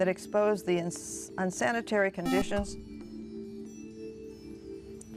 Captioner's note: buzzer